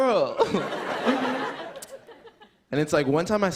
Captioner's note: laughter